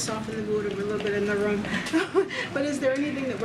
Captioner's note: laughs